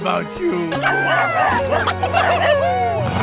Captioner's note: cheering